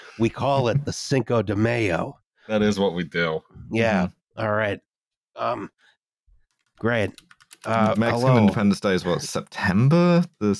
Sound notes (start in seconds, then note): 7.1 keyboard tapping